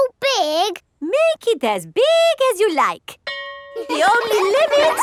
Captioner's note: school bell rings; children laughing